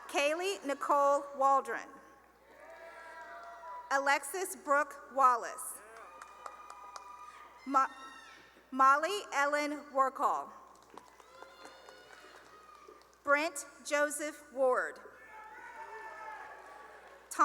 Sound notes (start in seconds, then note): 2.4 cheering; 5.8 cheering and applause; 10.8 cheering and applause; 15.1 cheering